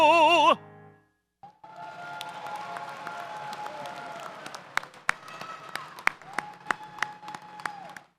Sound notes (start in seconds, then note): 1.4 audience applauds